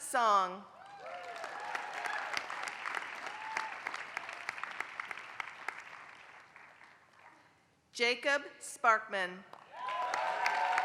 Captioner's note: applause; applause